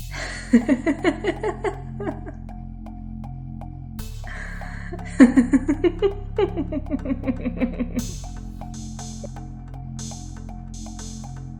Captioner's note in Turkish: Gülme sesi